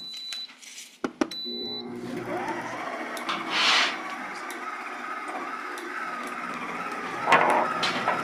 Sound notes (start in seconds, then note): 1.4 mixer whirs